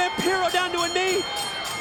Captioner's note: bell ringing